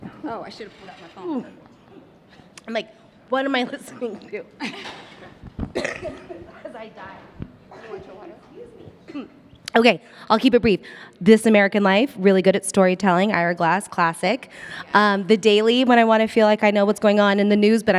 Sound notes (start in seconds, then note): 5.6 coughs